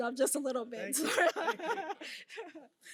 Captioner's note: laughs